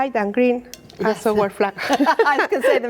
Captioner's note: laughs